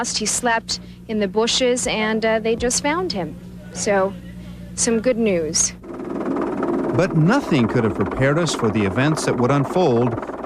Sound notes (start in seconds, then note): 5.9 helicopter whirring